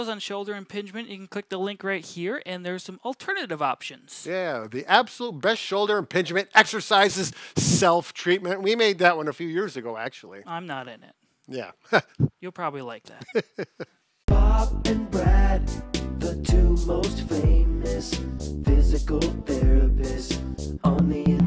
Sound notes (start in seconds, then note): 13.2 laughs